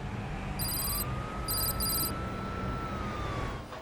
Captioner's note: text clicking